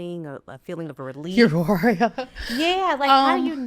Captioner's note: laughs